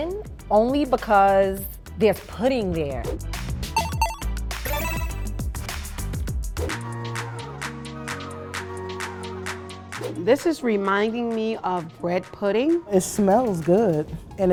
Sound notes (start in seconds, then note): 3.8 digital ping; 7.2 upbeat music